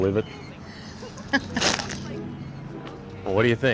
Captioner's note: laughing